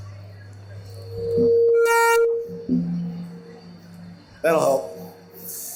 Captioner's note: microphone distortion